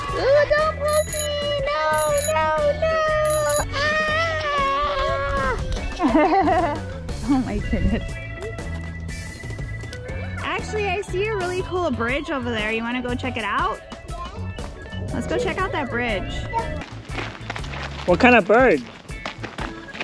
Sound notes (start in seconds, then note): 0.0 children laughing; 6.0 laughs